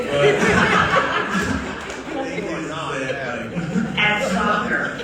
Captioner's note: audience laughing